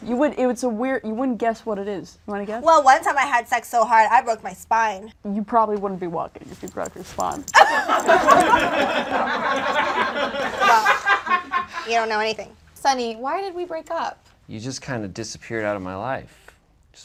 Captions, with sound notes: - Yeah, it wasn't the nose. You would, it's a weird, you wouldn't guess what it is. You wanna guess? - Well, one time I had sex so hard I broke my spine. - You probably wouldn't be walking if you broke your spine. (audience laughs) - You don't know anything. - Sonny, why did we break up? - You just kind of disappeared outta my life.